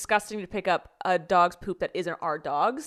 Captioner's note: none